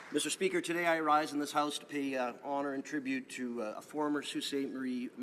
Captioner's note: applause